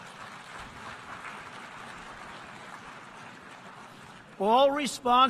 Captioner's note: applause